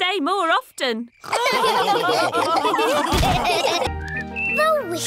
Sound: all laughing

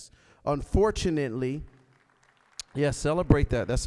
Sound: applause

